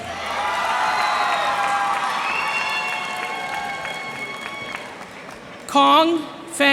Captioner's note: cheers and applause